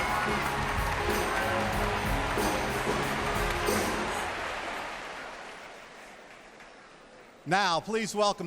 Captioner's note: applause